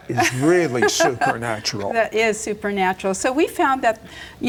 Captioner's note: laughing